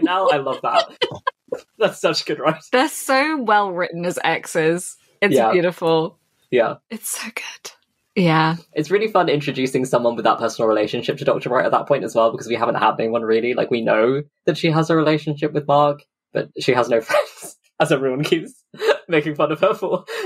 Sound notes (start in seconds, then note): 17.8 laughs